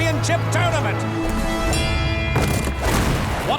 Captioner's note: dinging